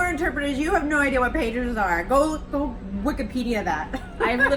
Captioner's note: laughs